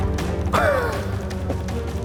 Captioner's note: chuckles